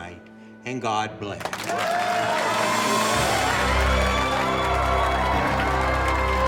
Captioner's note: audience applauding and cheering